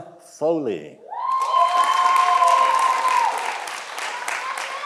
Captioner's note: audience applauding